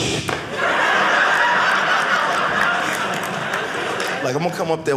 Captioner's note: audience laughing